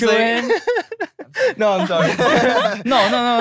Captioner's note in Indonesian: tertawa